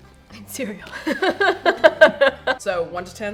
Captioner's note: laughs